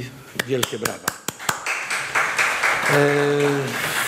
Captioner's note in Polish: oklaski